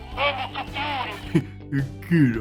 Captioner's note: giggles